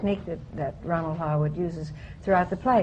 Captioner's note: none